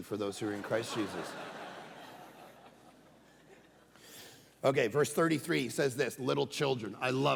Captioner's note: congregation laughing